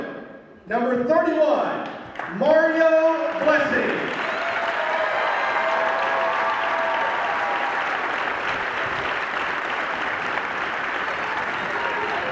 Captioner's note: cheering